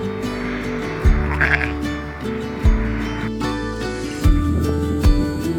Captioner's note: sheep baaing; gentle upbeat music